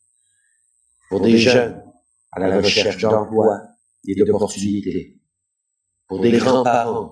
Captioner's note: french